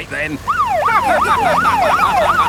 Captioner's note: siren wailing; laughing